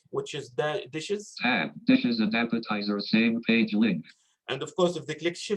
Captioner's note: automated Voice